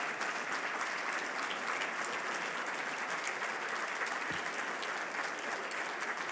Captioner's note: audience continues applauding